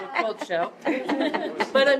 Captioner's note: laughter